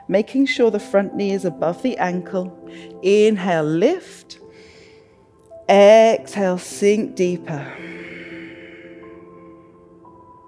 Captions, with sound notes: making sure the front knee is above the ankle. Inhale, lift, (inhales) exhale, sink deeper. (exhales)